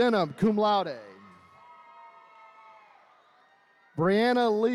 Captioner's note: attendees cheering